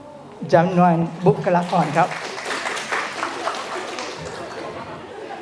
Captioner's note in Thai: ปรบมือ